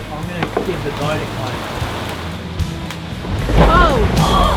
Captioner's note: thunder rumbling